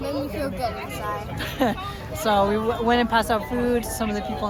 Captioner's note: laughing